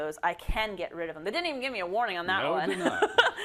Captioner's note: laugh